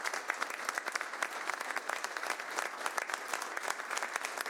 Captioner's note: applause